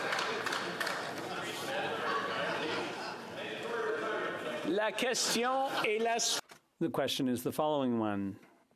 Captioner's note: applause